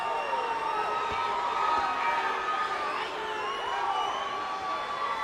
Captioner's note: audience cheers